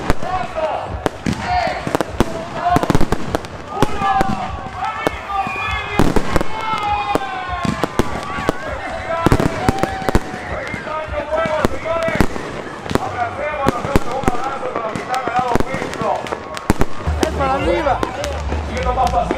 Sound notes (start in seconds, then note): 8.0 fireworks Sounds